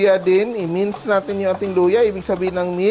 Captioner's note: sizzle